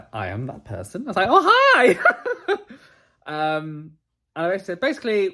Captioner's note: laughs